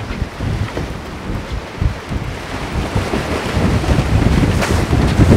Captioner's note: waves crash